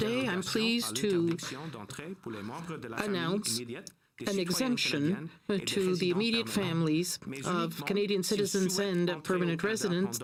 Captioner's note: speaking French